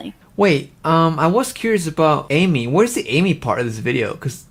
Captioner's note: none